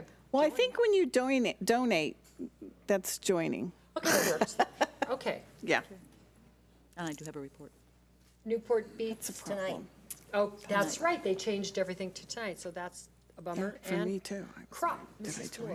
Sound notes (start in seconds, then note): 2.4 laugh